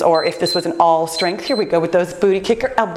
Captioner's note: timer beeps